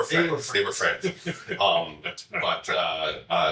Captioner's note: chuckling